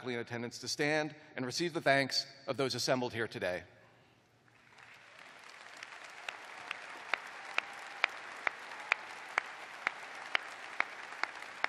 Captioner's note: applause